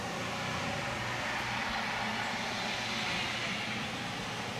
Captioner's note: truck engine roaring